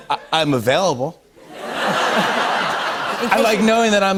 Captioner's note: laughter